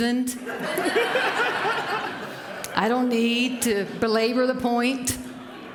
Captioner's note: laughter